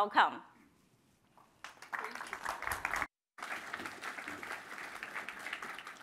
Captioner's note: applause